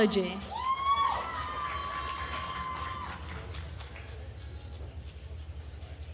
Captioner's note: attendees cheering and applauding